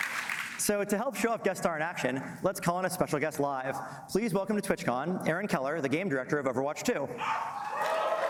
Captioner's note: applause